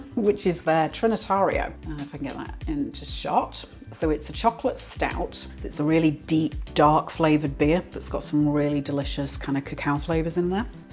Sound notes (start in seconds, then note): none